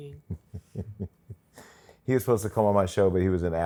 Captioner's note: laughs